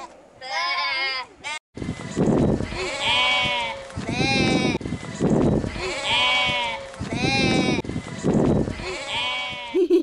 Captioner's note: singing; lots of BAAA-ing; laughing